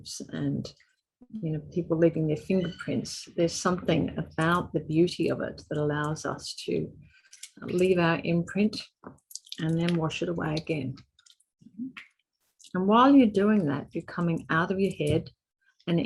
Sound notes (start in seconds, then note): 11.0 clay squelching